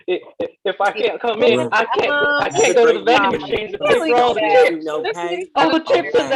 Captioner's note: stammers in confusion, true to character